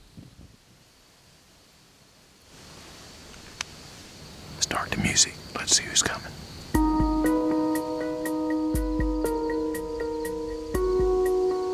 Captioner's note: whispering